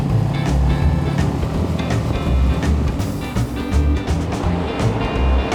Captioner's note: boat engine humming